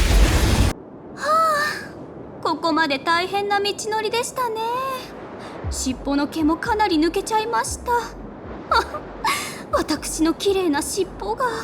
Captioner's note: sigh